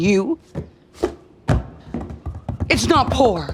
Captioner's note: thing tapping and thudding